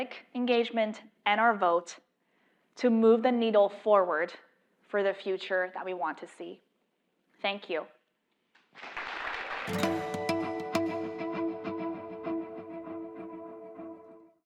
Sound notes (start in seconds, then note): 8.5 applause